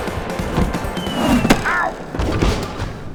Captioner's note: whistling; thudding